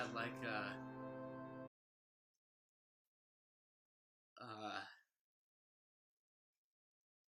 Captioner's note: music stops